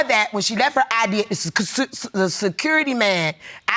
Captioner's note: stammering